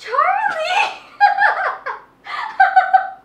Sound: laughter

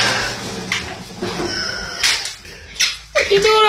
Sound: wheeze

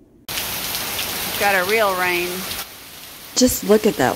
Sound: rain falling

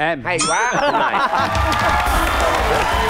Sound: laughing

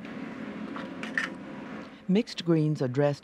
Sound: dishes clatter; voiceover

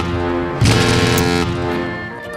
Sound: <i> horn stops</i>

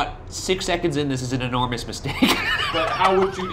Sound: laughing

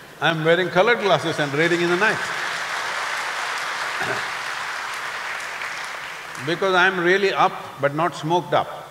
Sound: applause

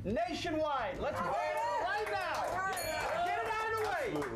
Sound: bell rings

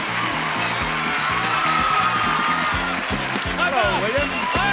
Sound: exciting music; crowd cheering

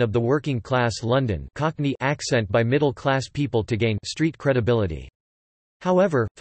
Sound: cockney

